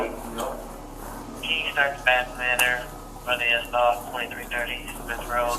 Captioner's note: officer On Radio